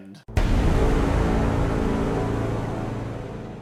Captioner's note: explosion